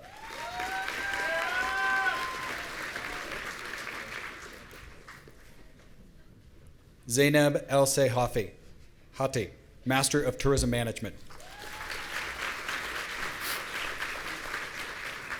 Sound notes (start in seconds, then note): 0.0 audience cheering; 11.3 audience applauding